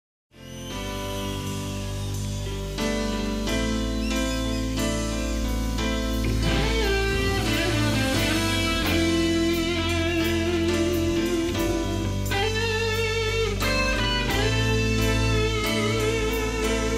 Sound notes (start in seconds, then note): 0.6 audience cheering; 6.8 guitar solo